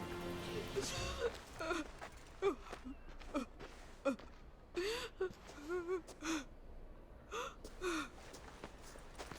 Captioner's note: sobbing